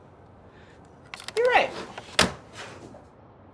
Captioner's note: slam